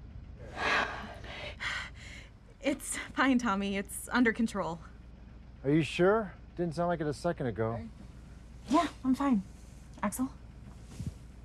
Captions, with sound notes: [both exhale, relieved] It's fine, Tommy, it's under control. Are you sure? Didn't sound like it a second ago. Yeah, I'm fine. Axel?